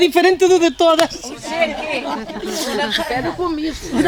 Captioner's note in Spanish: risas